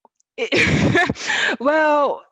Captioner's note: chuckles